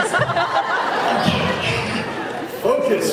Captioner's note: laughs